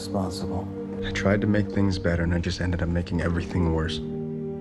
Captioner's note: voiceover